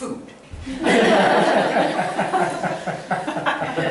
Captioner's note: laughter